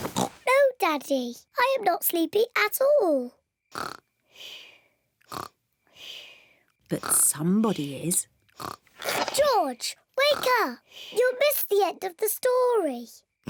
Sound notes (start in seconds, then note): 3.7 snores; 12.9 oinks